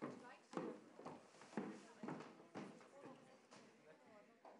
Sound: people chattering

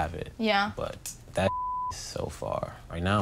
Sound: beep

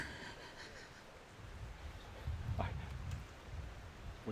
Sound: laughs

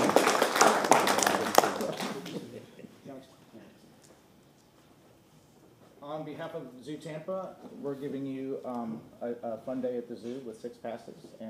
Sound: applause

